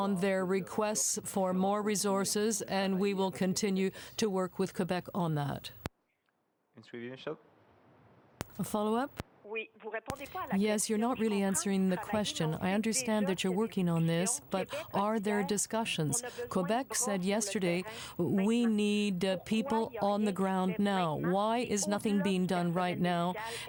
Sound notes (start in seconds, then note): 15.3 speaking french